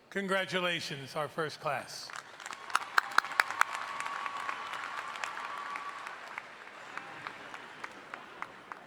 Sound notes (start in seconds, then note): 2.2 audience applauding